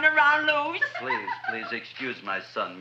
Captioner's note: Audrey laughing